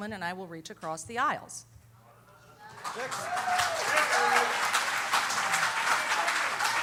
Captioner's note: cheers and applause